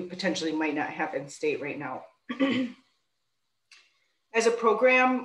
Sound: clears throat

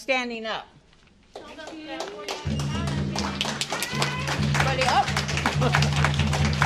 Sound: applause

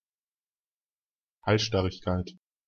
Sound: fast Pronunciation

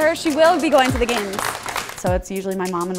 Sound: applause

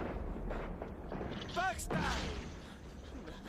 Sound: explosion

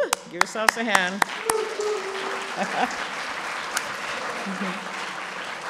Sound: applause

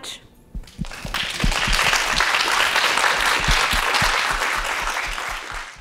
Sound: audience applauds

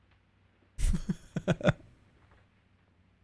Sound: chuckles

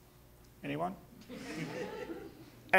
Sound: audience laughing

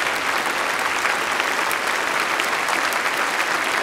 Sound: applause

